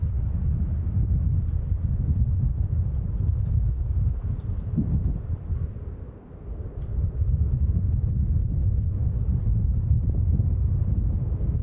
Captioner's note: wind